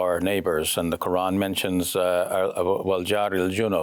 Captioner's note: speaks in foreign language